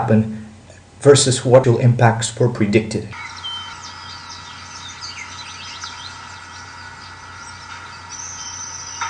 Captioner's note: birds chirping